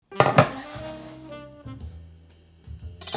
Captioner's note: board sliding; upbeat jazz music playing in background throughout video